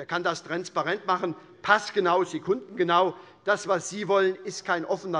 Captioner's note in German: none